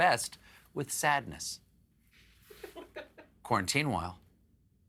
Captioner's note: laughter